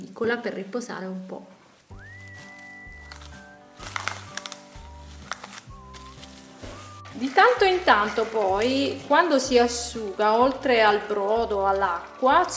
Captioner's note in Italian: Applauso